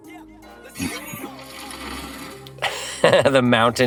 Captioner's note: car engine humming; dirt rustling; laughs